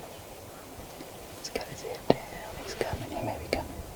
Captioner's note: whispering